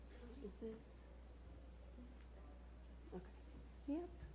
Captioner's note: murmuring